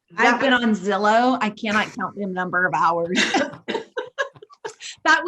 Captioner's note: laughs